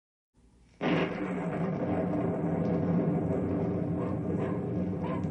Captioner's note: thunder